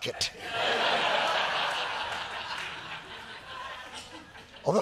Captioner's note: laughter